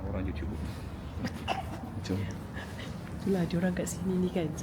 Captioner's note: laugh